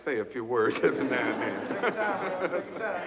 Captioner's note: group laughs